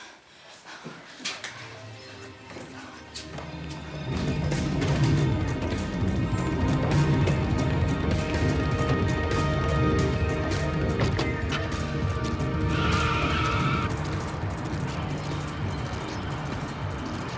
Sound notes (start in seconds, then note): 1.7 suspenseful music; 11.7 car starts; 12.9 tires screech